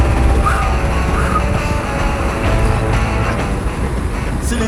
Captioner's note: breathing heavily